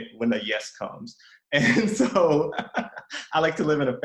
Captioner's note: laughs